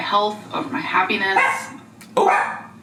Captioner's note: dog barks